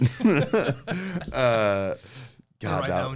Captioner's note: both laugh